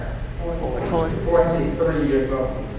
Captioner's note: audience responds